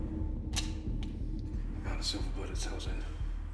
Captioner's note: gun clicking